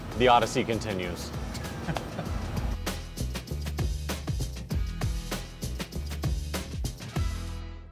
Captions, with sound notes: - The odyssey continues. (laughter) (upbeat music)